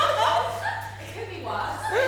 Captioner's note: audience laughs